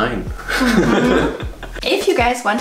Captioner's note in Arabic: يضحك